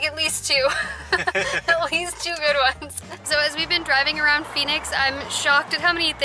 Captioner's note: laughs